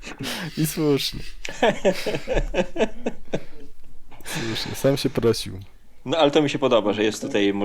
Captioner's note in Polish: śmiech